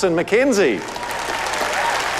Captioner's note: cheering, applause